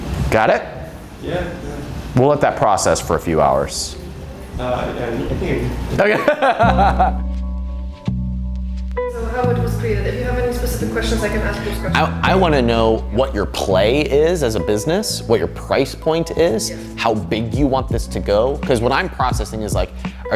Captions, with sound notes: Got it? - Yeah, yeah. - We'll let the process for a few hours. - All right, yeah. I think, yeah. (laughing) (calm music) - So how it was created, if you have any specific questions I can answer those questions. - I want to know what your play is as a business. What your price point is, how big you want this to go. 'Cause what I'm processing is like